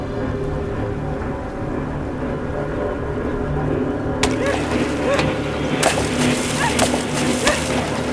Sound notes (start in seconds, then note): 0.2 suspenseful music; 4.2 splashing water